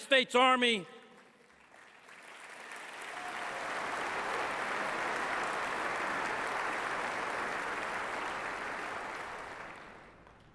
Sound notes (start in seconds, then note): 2.4 applause